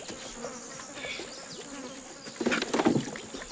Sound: flies buzzing

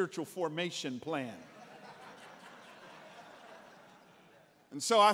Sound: congregants laughing

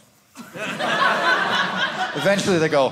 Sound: audience laughing

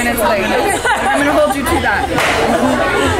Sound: women laugh

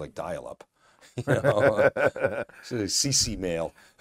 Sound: laughs

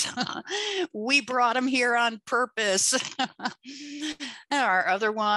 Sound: laughs

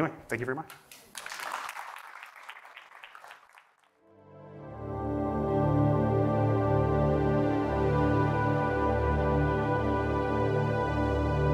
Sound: applause

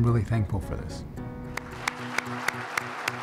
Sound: lively music; audience applauds

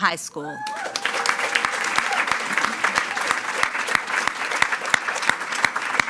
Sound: attendees cheering and clapping

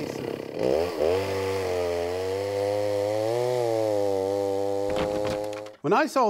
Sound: saw buzzing

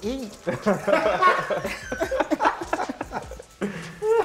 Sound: laughter

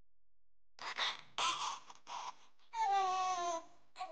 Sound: baby crying

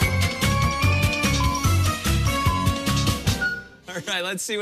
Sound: beeping

